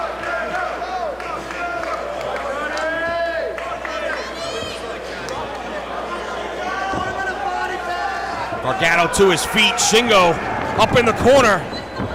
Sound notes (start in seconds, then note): 1.1 applause